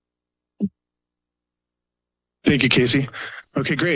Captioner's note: silence